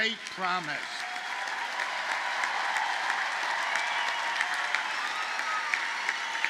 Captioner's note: audience cheers and applauds